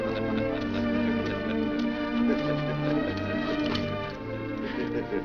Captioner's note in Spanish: laughing continues